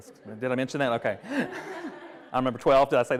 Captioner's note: attendees laughing